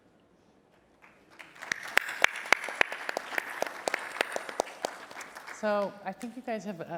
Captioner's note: applause